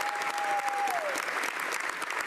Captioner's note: speaking French